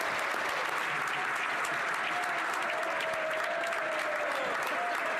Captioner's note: applause